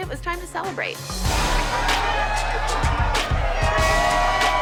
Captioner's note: cheering